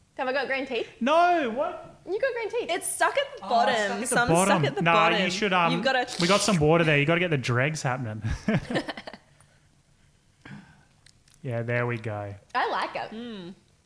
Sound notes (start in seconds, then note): 6.0 slurping; 8.2 laughing